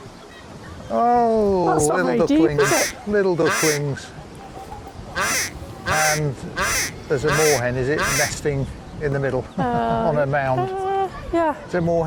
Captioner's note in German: quack